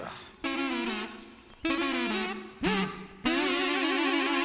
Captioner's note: pigeons continue playing